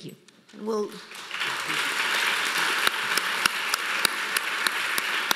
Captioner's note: audience applauding